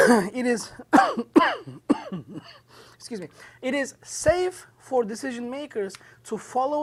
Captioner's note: coughs